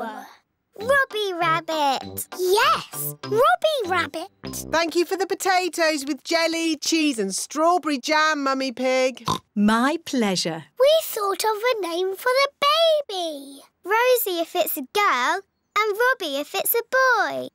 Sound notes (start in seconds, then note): 9.2 oinks